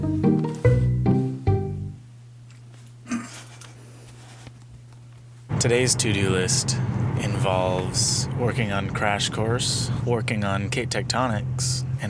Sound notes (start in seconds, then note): 3.0 snorts in laughter